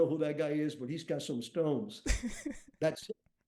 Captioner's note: chuckles